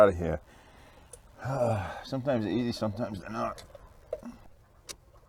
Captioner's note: sigh